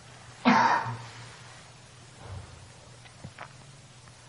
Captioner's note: coughing